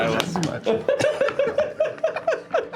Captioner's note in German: lachen